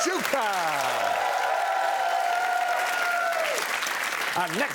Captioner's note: cheers and applause